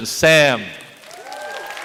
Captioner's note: applause